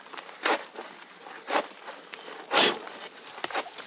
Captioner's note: scratching noises, strong puffing